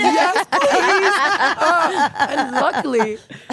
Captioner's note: Stephanie and Elyse laughing